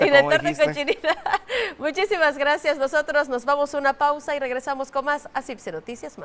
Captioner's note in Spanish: risas